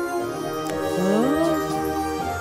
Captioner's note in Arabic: موسيقى ترقّب; صوت استغراب; موسيقى ترقّب